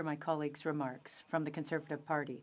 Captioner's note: speaking French